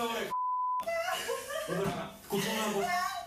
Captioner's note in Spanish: sollozos